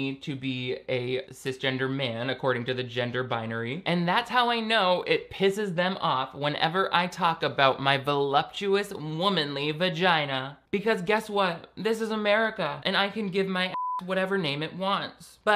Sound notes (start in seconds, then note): 13.7 beep